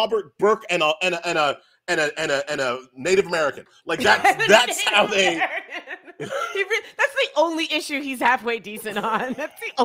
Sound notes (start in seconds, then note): 3.9 laughs